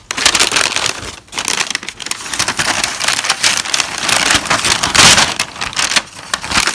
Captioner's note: crinkling